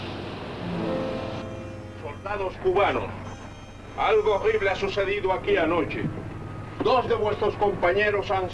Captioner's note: General Tostada speaking in Spanish